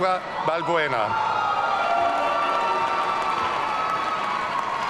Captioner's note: audience cheering